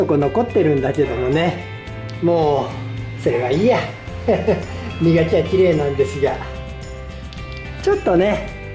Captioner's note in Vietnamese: cười